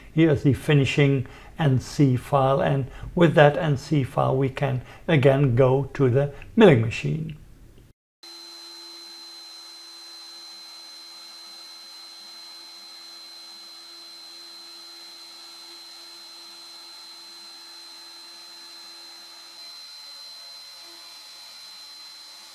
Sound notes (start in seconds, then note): 8.2 machine noise